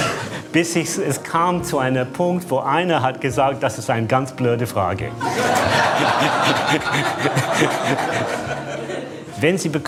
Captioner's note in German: Lachen; Lachen